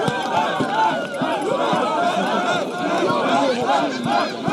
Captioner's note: chanting